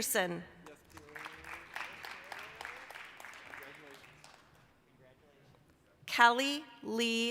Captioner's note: applause